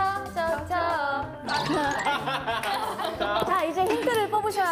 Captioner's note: laughing